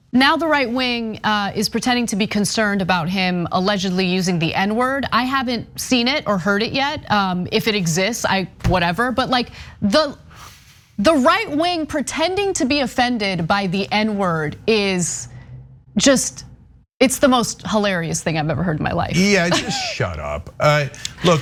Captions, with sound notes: >> Now the right wing is pretending to be concerned about him allegedly using the N word. I haven't seen it or heard it yet, if it exists, whatever. But the right wing pretending to be offended by the N word is just, it's the most hilarious thing I've ever heard in my life [LAUGH]. >> Yeah, just shut up.